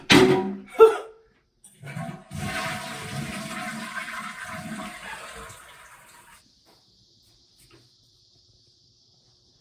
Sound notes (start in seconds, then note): 1.6 toilet flushing